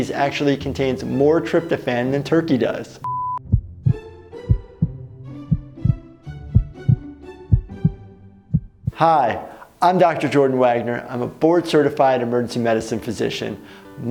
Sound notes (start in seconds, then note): 4.4 heart pounding